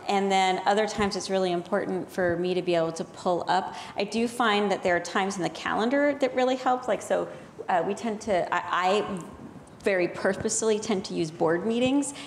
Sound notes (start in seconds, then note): none